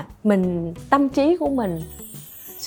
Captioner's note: none